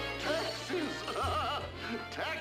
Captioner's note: laughing